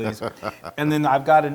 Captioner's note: laugh